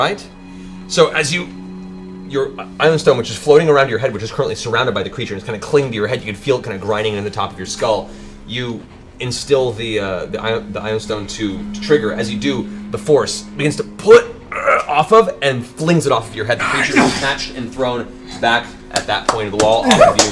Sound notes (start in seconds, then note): 14.5 grunt